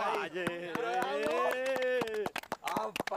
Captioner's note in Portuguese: aplaudindo